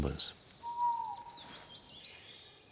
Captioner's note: owl hoots